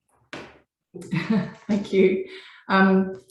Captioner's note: chuckles